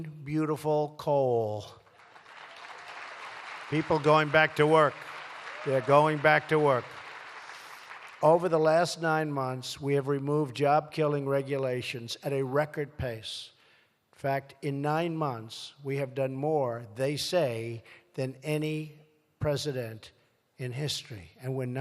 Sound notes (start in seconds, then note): 1.7 applause